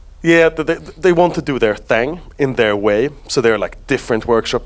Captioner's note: none